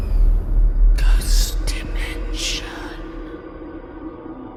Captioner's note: ominous music; creepy Voice